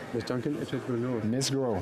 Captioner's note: speaking French